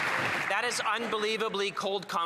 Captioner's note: some Applause